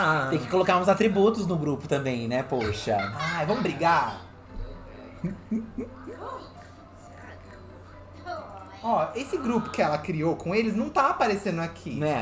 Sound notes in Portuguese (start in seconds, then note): 0.0 cantarolam; 4.3 Sims conversam